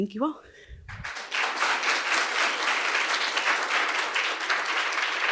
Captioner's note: audience applauding